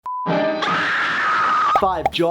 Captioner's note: woman screaming